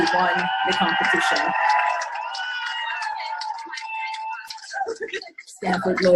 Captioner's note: cheers